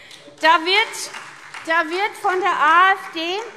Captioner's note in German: Beifall SPD